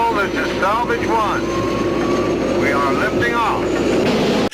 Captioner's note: rocket rumbles